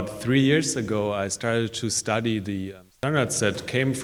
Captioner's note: mic cuts out